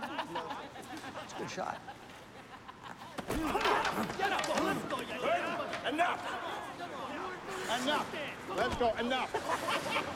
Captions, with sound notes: (laughter) - That's a good shot. (fighting sounds) - Let's go! Let's go! - Hey! Enough. Enough. Let's go. Enough. (laughing)